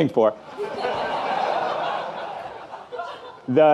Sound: audience laughing

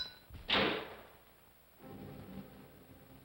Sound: bells stop; loud bang; tense ominous music

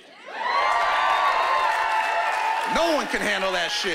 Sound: cheering and applause

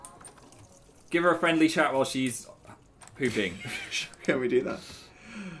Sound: laughing

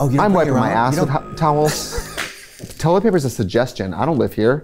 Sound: laughs

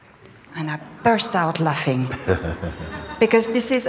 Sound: laughter

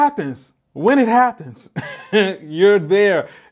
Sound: laughs

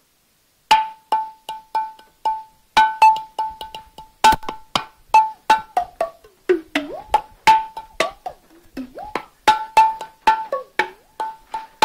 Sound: glug glug glug

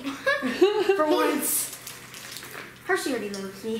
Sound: laughing

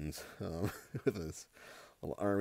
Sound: chuckling

